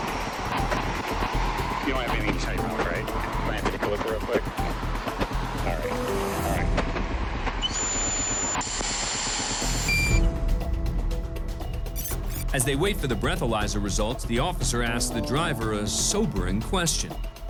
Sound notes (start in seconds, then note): 8.5 machine makes noise